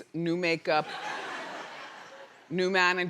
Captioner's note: audience laughing